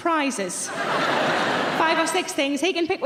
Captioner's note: audience laughing